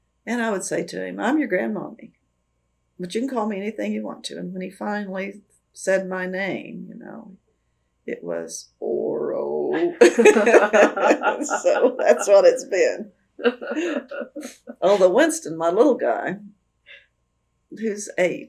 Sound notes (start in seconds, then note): 9.8 laughter